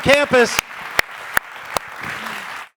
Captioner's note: applause